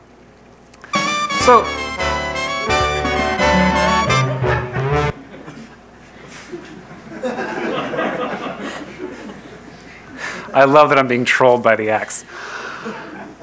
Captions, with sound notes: So... (instrumental music playing) (crowd laughing) I love that I'm being trolled by The Axe.